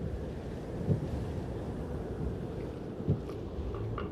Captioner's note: wind howling